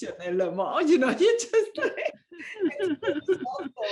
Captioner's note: laughter